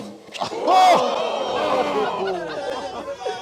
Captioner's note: gasps